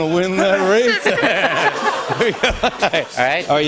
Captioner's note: laughter